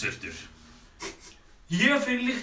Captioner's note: sniffing